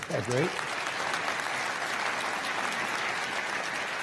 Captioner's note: crowd applauding